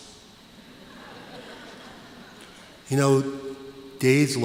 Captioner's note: laughter